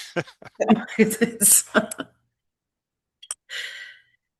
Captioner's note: laughs